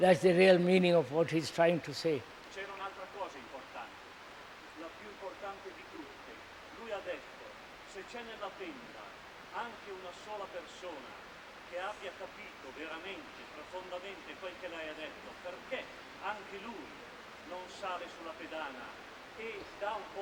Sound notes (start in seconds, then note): 2.8 Italian